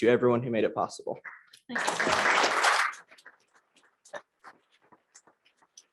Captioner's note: applause